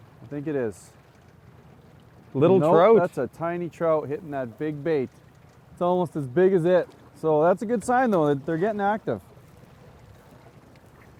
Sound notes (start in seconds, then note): none